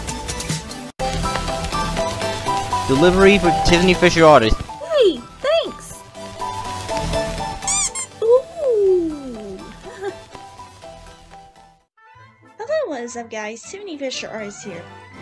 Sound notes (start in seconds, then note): 1.0 upbeat music playing; 7.6 plush squeaks; 9.7 giggles